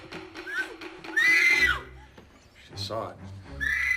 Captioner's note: screams